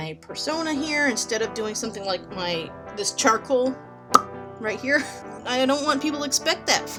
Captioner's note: pop